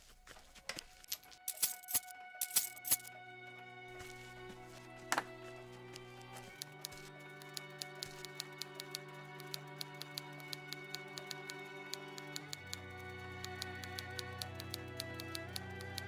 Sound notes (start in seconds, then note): 0.1 object clicking; 2.4 metal scraping; 7.4 typewriter tapping